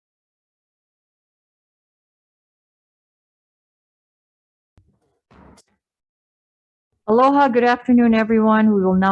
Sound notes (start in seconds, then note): 4.8 gavel bangs